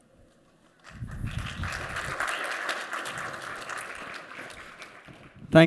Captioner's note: applause